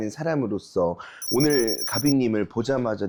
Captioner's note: scanning the fashion sound effect